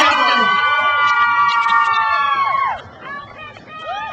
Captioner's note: crowd cheers